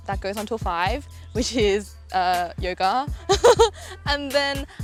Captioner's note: laughs